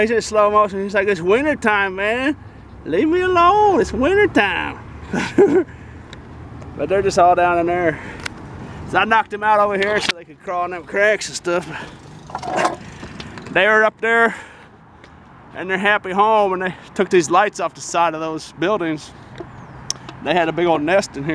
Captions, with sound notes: he is in extra slow motion, he is like it's winter time man!!! LEAVE ME ALONE IT'S WINTER TIME (laugh) but they are just down in there I knocked them out over here so they could all crawl down in them cracks and stuff... they were up there in their happy home then they took the lights off the sides of those buildings...